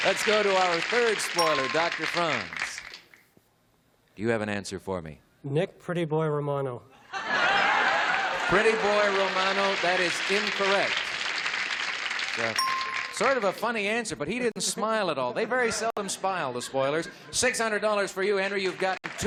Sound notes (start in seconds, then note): 0.0 cheering and applause; 9.0 chuckling; 12.9 applause